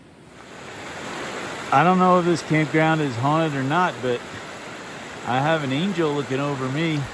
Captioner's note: water rushing noises